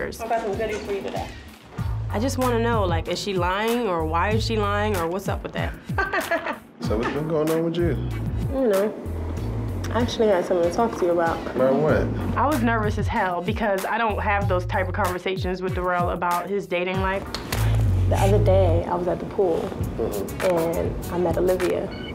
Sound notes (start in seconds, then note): 5.9 laughing